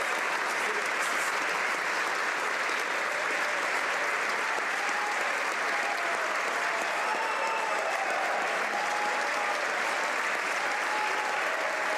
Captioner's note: applause